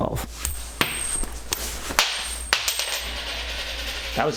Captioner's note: exploding coin noises